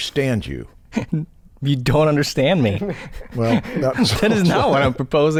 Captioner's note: chuckles